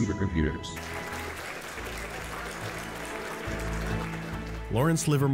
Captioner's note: clapping